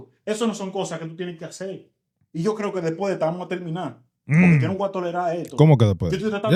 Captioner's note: speaking In Foreign Language